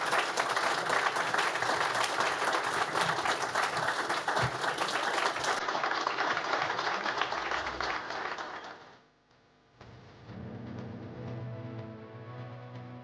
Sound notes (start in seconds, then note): 0.0 applause